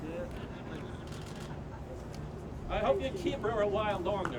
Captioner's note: camera clicks